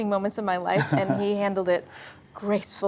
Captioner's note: laughs